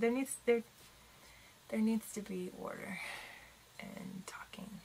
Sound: takes deep breath

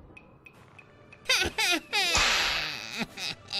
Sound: cackles evilly

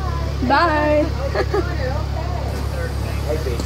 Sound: laughing

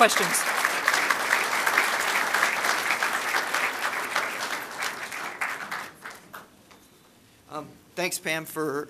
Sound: applause

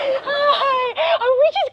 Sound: baby talk

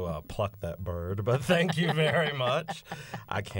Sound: laughter

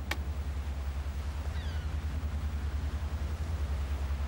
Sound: boat rumbling

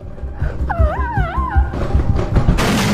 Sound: crying monkey

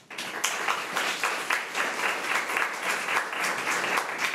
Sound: crowd clapping

